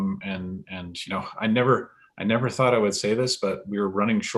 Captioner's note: chuckles